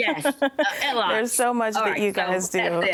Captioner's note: laughs